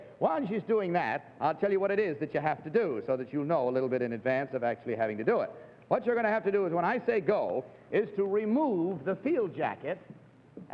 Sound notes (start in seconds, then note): none